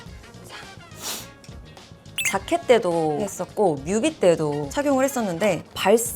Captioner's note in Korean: 콧방귀